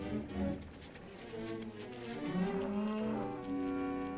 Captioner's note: gentle music; horse hooves clopping; gentle music